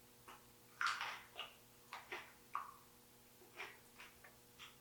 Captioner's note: teeth crunching